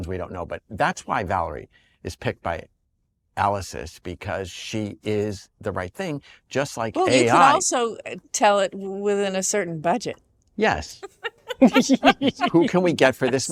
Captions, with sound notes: But that's why Valerie is picked by AL Assist because she is the right thing, just like AI-- Well, you can also tell it, "Within a certain budget." -Yes. -(ALL LAUGHING) "Who can we get for this money?"